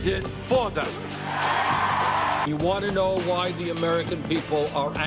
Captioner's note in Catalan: crits de la multitud